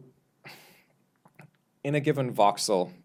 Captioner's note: sighs